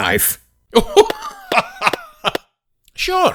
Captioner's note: laughing